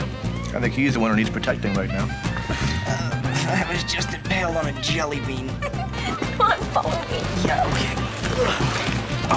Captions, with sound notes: YEAH. I THINK HE'S THE ONE WHO NEEDS PROTECTING RIGHT NOW. UH, I WAS JUST IMPALED ON A JELLY BEAN. [ Laughs ] COME ON. FOLLOW ME. YEAH. OKAY.